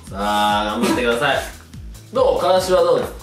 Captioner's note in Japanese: ゲホッ